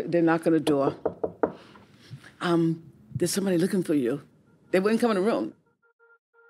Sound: knock, knock, knock

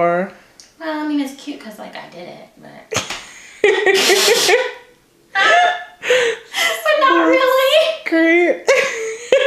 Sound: laughter

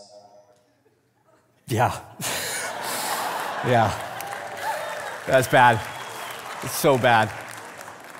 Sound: congregation laughing; laughs

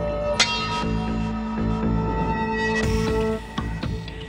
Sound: swords clang

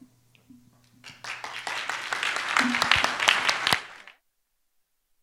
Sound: applause

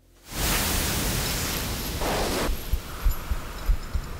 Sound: chain chinking

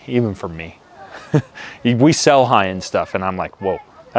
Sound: laughs

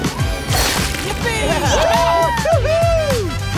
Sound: cheering

